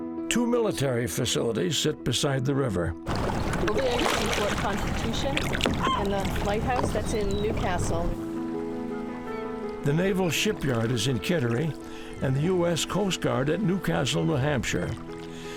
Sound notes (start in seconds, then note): 3.0 water splashing